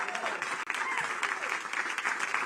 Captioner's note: applae